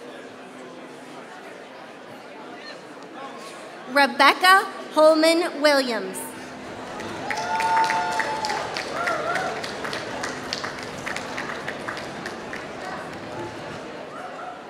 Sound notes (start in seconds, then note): 10.2 applause